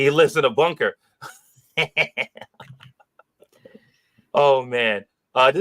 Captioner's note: laughs